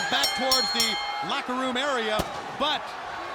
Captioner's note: balloons popping